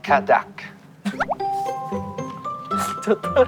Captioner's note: laughing